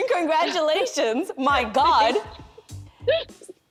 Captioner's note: laughing; laughing